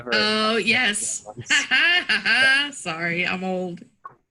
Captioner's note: laughing